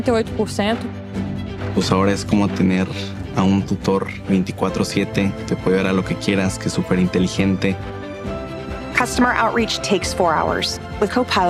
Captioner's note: not speaking english